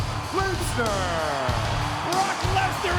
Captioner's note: audience cheering and clapping